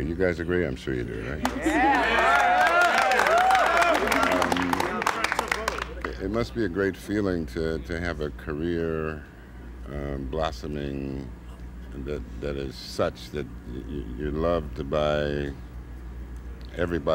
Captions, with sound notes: - I must say. You guys agree? I'm sure you do, right? (cheering) It must be a great feeling to have a career blossoming that is such that you are loved by everybody on all